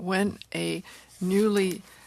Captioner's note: speaking french